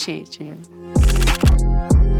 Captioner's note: camera clicking; casual music